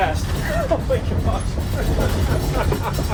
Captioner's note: laughs